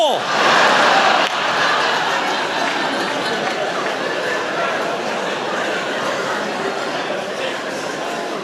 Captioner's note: laughter